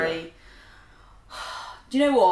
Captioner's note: sighs